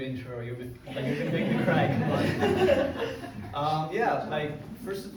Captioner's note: crowd laughs